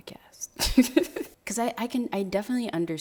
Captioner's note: laughing